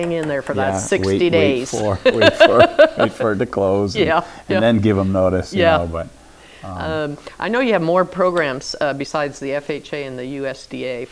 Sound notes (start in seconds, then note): 0.6 laughs